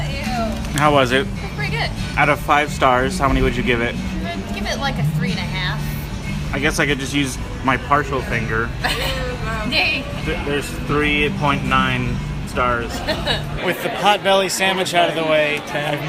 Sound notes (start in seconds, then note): 8.8 laughs; 12.9 laughs